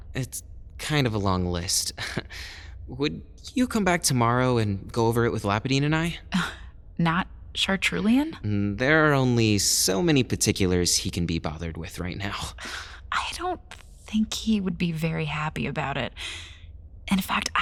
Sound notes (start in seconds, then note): 8.4 confused